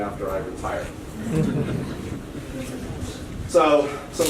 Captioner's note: laughter